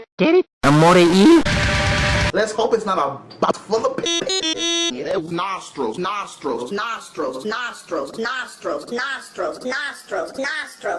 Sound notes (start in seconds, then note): 4.0 looping and raising in pitch